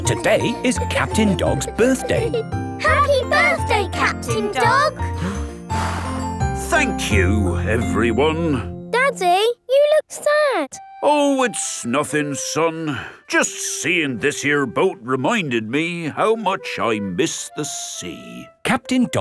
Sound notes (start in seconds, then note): 5.0 blows